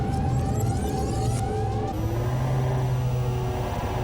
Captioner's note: computerized humming